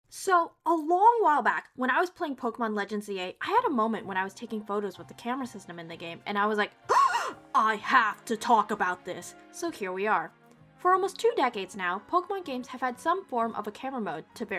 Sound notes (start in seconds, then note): 6.9 big gasp